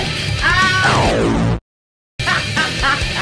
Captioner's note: laughing and rock and roll disc; transformation sound; laughing and rock and roll disc